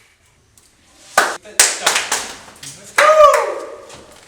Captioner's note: claps